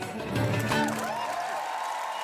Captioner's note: applause